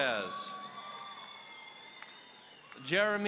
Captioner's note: audience cheering